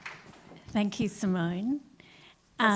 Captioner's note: applause